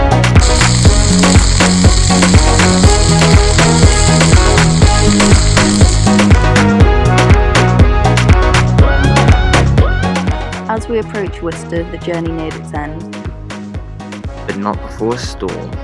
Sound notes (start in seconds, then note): 0.4 sizzling sound